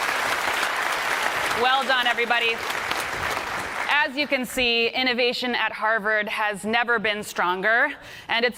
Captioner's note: applause